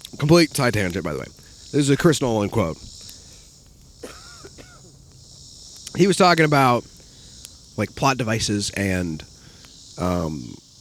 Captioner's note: coughs